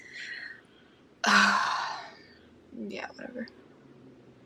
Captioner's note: sighs